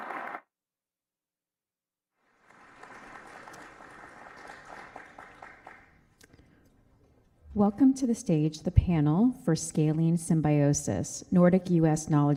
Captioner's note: applause